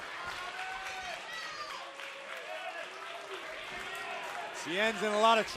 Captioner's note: crowd cheering